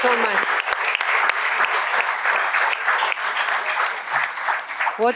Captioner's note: applause